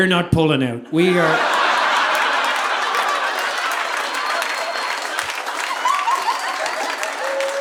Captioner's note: audience laughing; audience applauding